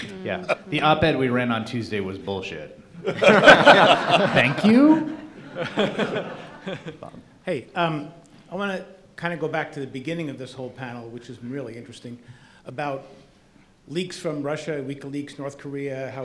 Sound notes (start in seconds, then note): 3.0 laughing